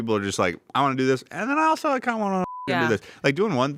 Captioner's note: beep